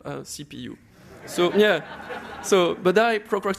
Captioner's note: laughter